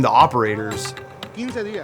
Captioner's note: speaking Spanish